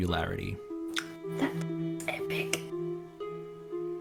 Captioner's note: whispered